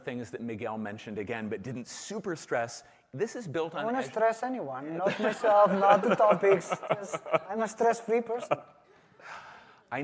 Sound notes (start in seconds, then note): 5.0 laughter